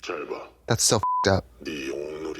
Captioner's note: beep